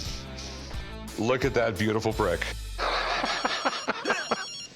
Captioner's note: laughing